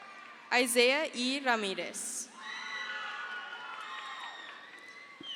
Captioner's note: crowd cheers